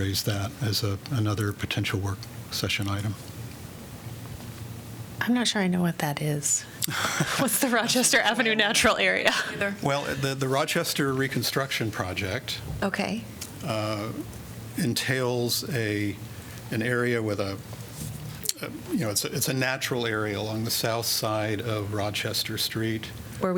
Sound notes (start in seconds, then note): 6.8 laughter